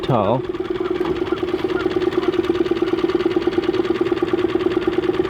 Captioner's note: boat engine whirring